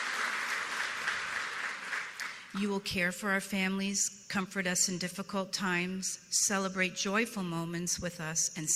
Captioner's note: applause